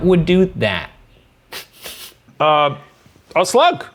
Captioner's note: laughing